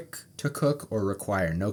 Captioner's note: none